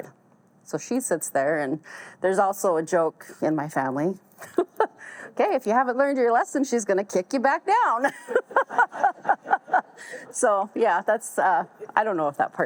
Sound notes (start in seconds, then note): 4.4 laughs; 8.0 all laugh